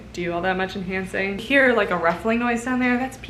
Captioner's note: ruffling